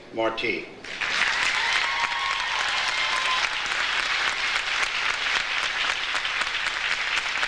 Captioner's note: audience applauds; audience cheers